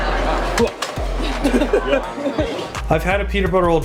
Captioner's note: laughs